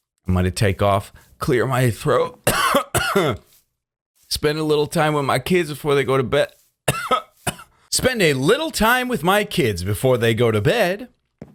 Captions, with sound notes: gonna take off, clear my throat [coughs twice] spend a little time with my kids before they go to bed [clears throat] spend a little time with my kids before they go to bed